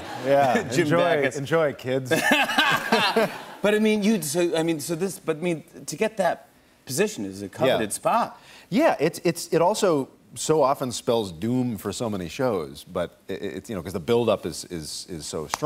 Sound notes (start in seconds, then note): 2.1 laughter